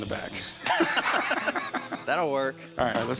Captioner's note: laughter